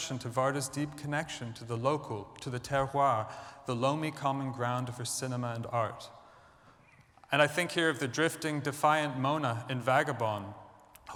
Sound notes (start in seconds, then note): 2.9 french